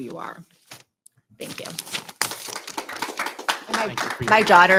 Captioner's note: audience applauding